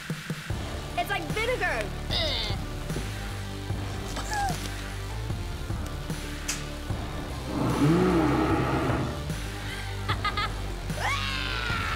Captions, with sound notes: It's like vinegar! Eww! [vomiting] [screaming] [laughing] [screaming]